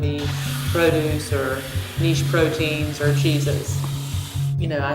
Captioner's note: faucette running